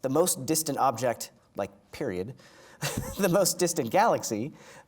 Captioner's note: laughing